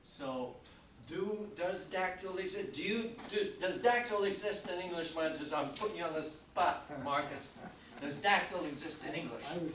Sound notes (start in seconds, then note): 6.8 chuckling